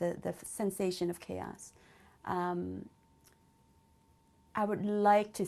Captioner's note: pauses for 3 seconds